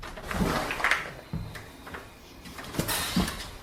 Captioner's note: door clicks